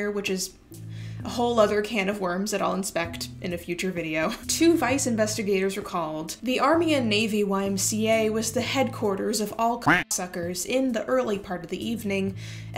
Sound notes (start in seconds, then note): 9.9 quack